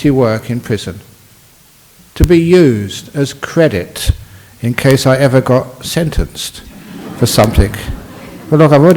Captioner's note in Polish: śmiech